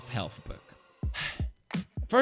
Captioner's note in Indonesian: Sigh